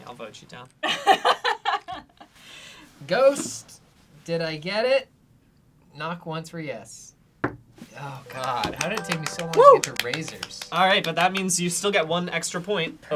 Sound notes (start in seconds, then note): 0.9 laughs; 7.5 knocks once; 8.1 chiming